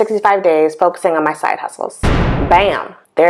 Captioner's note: sound effect